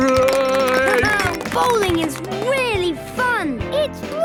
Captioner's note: clapping, laughing